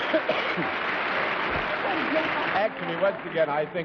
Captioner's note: coughs; applause